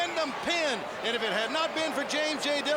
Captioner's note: crowd chatter